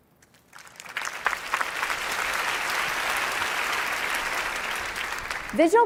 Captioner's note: applause